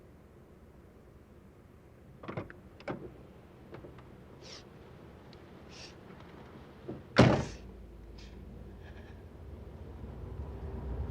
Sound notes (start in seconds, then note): 4.0 sobbing